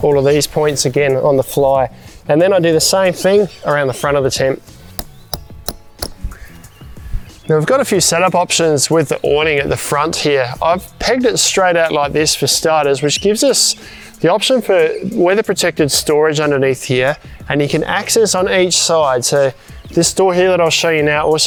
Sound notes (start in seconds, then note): 4.8 hammer tapping